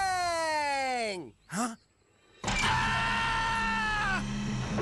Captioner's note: screaming